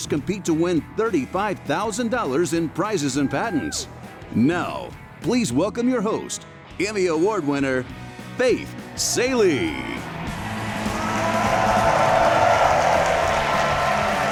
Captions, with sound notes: compete to win $35,000 in prizes and patents. Now, please welcome your host Emmy Award winner Faith Salie. (audience cheering)